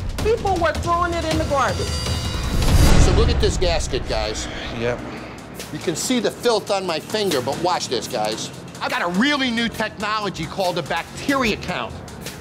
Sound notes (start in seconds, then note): 0.0 intense music; 2.3 scene whooshing; 4.8 sighing